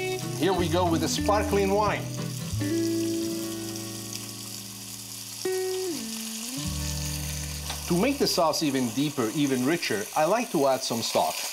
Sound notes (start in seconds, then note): 3.0 sizzling